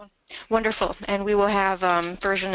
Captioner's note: voiceover